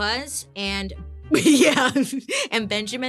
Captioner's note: laughing